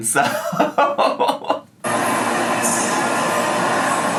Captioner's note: laughs